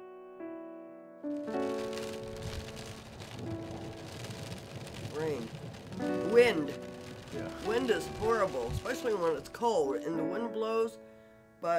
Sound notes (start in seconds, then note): 0.1 gentle music; 1.3 rain falling